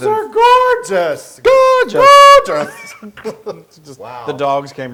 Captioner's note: laugh